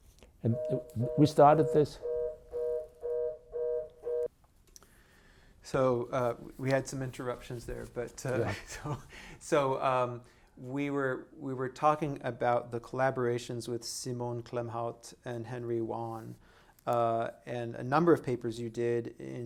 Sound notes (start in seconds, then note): 2.1 phone line busy tone